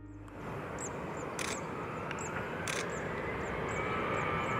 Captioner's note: engine whirring